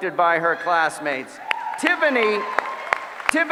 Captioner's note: applause